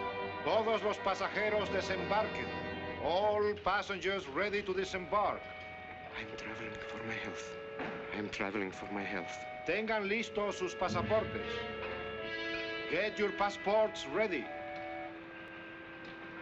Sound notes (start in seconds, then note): 0.2 official speaking spanish; 5.9 whispering to himself; 9.5 official speaking spanish; 16.2 whispering to himself